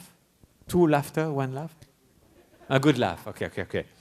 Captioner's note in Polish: śmiech; śmiechy